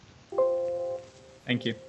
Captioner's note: computer jingle